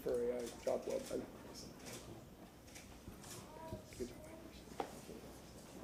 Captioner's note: none